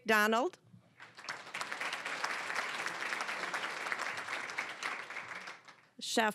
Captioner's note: applause